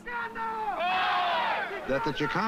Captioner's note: shouting